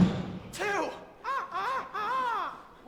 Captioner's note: Peter crows